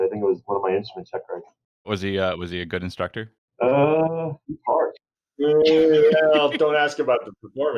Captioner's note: laughter